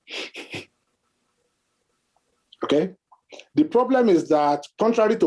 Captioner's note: scoffing